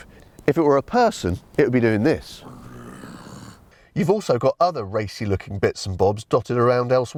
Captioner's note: snarls